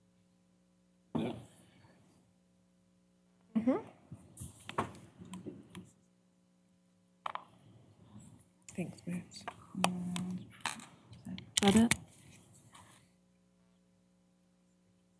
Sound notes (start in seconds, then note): 8.7 indistinct chatter